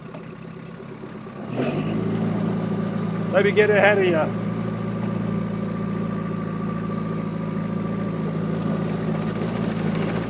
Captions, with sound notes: Let me get ahead of you. (machine whirring)